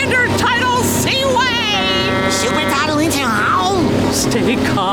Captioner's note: honking